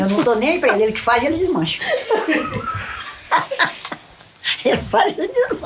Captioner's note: laughs